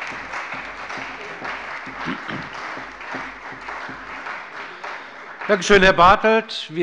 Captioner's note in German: Beifall bei der CDU und dem BÜNDNIS 90/DIE GRÜNEN